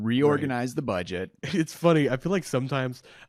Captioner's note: laughs